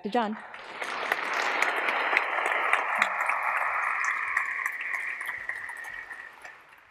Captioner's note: applause